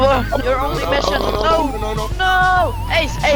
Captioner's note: everyone lowkey screaming